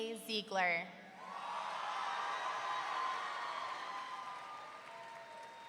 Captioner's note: audience cheering